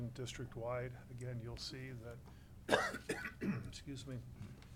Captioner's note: coughing